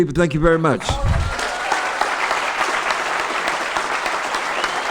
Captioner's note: applause